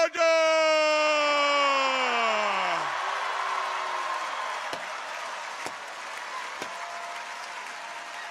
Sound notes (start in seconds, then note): 0.7 audience cheers; 2.4 audience applauds